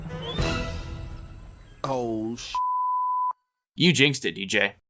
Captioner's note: beep